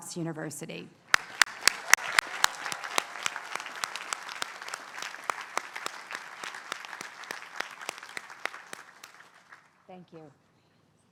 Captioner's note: applause